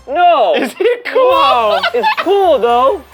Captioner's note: laughing